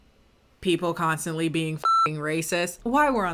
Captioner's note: beep